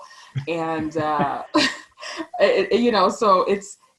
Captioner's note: laughing